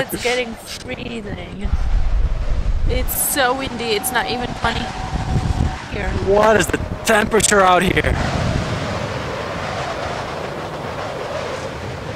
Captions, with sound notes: it's getting freezing. It's so windy, it's not even funny here. What is the temperature out here? (wind howling)